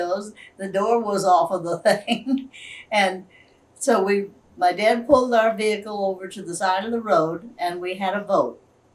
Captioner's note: laughs